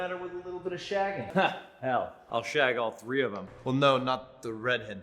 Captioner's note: chuckling